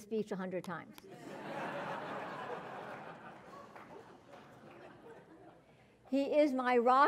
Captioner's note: laugh